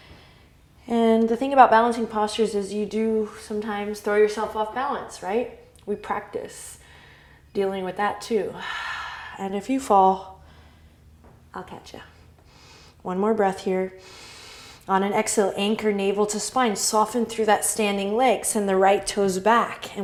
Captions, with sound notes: And the thing about balancing postures is you do sometimes throw yourself off balance, right? We practice dealing with that, too (exhale), and if you fall, I'll catch ya. One more breath here (inhale), on an exhale anchor navel to spine, soften through that standing leg, send the right toes back,